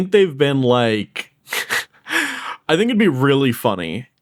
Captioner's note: laughs